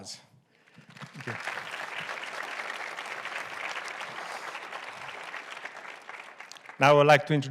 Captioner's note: audience applauds